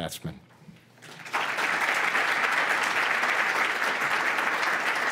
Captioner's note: audience clapping